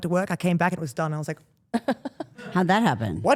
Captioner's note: Steph laughs